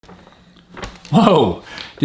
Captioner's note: paper rustles